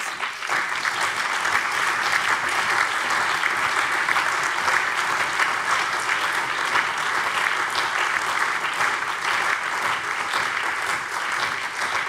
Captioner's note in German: Allgemeiner Beifall